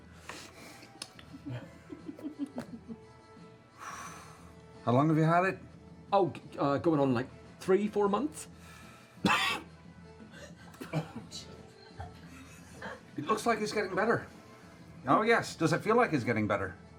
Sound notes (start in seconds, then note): 9.2 coughs